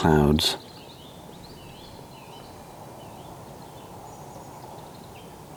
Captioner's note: birdsong